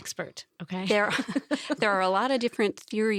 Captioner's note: laughs